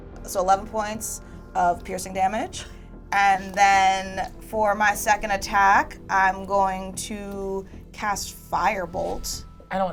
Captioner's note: none